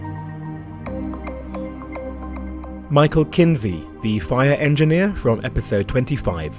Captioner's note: voiceover